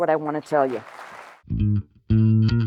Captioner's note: applause